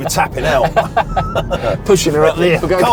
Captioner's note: both laughing